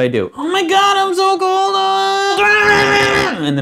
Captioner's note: wails, yelling nonsense and shaking; wails